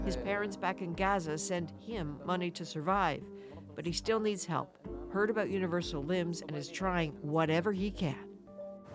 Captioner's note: speaking alternate language